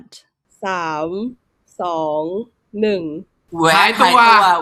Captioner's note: in Thai